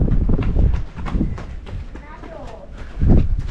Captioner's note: granddaughter running